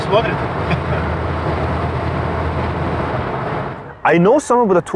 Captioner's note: laughing